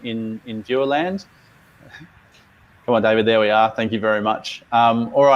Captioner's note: chuckles